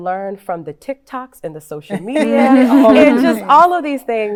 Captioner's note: all chuckling